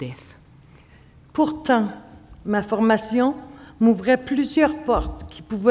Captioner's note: speaking French